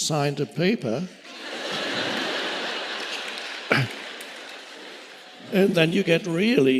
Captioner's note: audience laughing and clapping